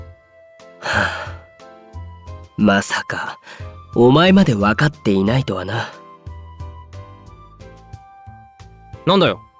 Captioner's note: sigh